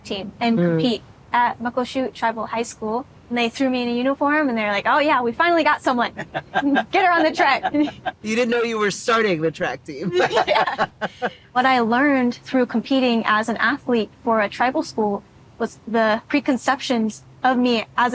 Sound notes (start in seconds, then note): 6.0 laughing; 10.0 both laughing